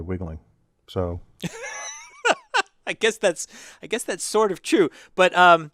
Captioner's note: laugh